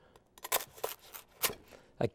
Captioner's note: bread crunching